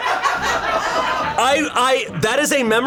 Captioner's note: colleagues laughing; laughs